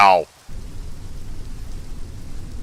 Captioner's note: rumbling noises